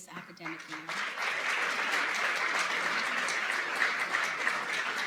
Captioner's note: applause